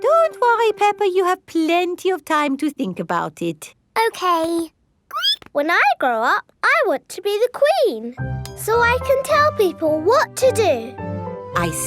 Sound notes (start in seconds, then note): 5.1 squeaks